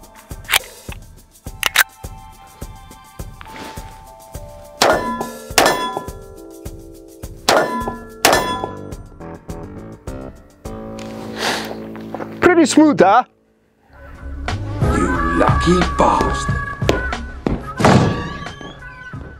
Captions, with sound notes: (pistol cocking) (pistol firing) (target clanging) Pretty smooth, huh? (upbeat music) - You lucky bastard.